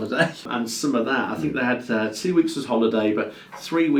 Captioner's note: laughs